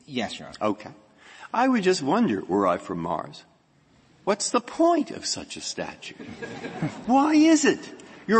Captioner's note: laughter